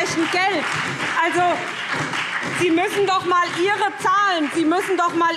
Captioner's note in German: Beifall